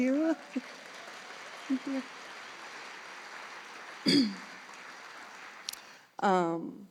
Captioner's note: applause